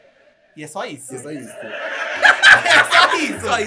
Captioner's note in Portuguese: gargalha